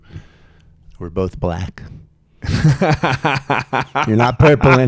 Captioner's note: laughing